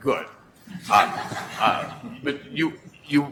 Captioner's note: laughing